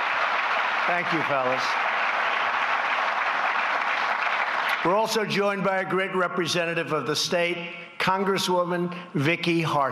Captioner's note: applause